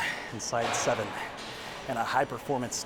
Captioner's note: heavy weight clangs